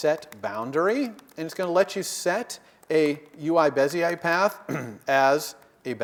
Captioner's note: cough